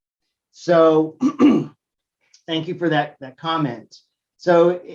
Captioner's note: cough